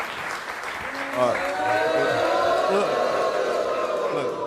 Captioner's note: audience applauds; audience boos